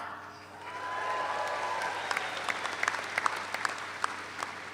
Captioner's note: audience applauds